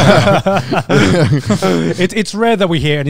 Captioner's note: laughs